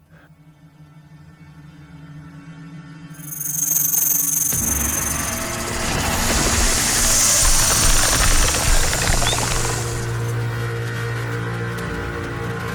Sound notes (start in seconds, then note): 0.7 tense foreboding music; 4.4 snake hisses; 4.8 snake rattles